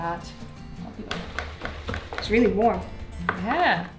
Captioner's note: blender clanking